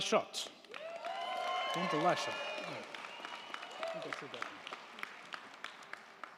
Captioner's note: crowd clapping; crowd cheering